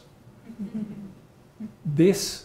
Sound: audience laughing

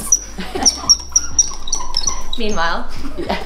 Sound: mannequin wheels squeaking; laughing

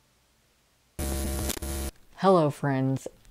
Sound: glitch sound

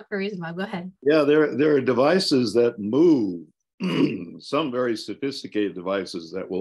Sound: clears throat

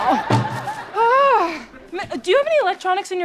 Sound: exasperated sigh

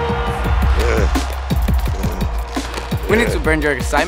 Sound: heavy breathing

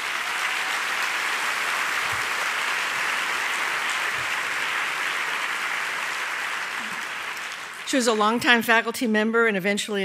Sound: applause

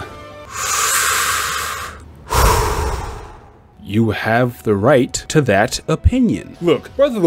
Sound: deep inhale, deep exhale

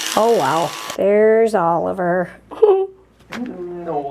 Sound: laughs

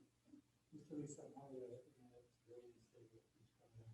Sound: voice muffled

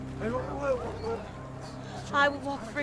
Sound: crowd murmuring

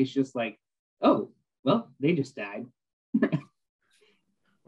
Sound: laughter

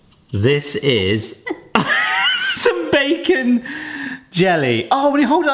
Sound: laughs

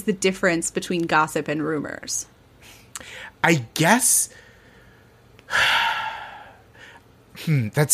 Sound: sighs

